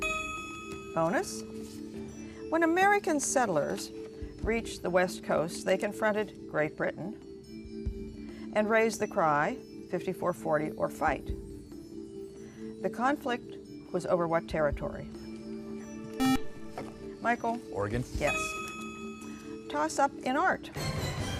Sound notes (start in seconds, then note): 16.2 buzzer